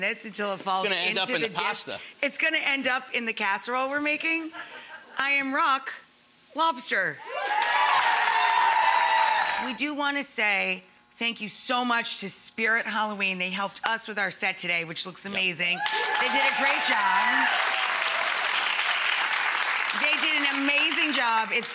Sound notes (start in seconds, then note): 7.3 audience applauding; 15.8 audience applauding